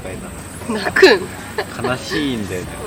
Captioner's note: laughs